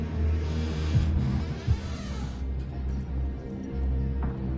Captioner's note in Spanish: Crujido al abrir la puerta